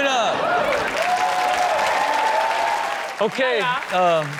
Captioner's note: audience cheer and applaud